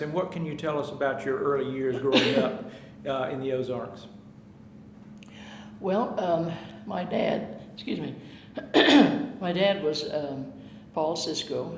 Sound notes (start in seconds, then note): 8.6 clearing throat